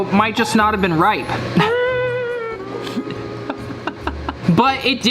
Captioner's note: laughs